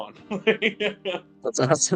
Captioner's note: laughs